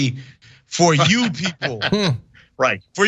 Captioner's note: laugh